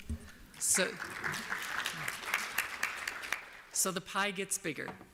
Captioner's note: applause